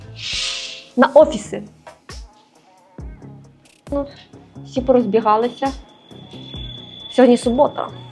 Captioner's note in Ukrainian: сопіння